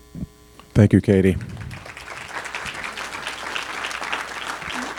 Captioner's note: applause